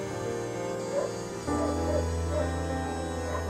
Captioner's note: dogs barking